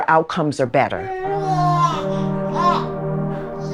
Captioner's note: baby cooing